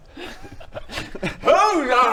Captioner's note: innocent giggles